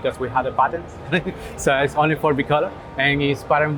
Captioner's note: chuckles